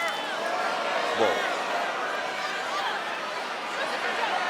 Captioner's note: crowd gasps